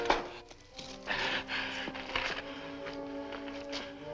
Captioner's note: gasping